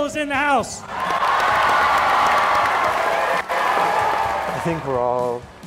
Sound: crowd applauding

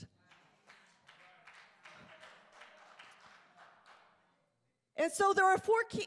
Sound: congregation applauding

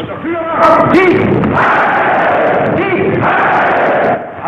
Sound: crowd shouting

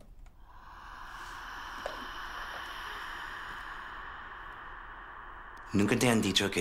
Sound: sighs

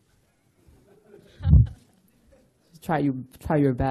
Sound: laughter

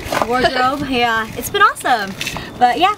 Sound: giggles

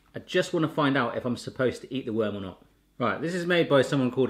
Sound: none

